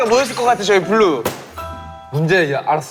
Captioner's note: smack